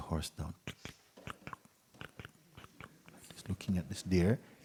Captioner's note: slow horse riding sounds